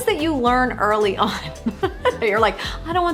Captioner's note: laughs